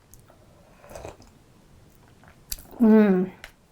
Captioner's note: slurping